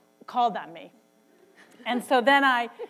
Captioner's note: laughter